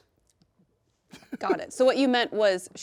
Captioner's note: snickering